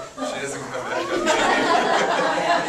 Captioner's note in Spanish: risas